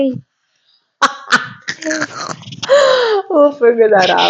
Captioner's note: laughing